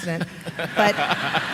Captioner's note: laughter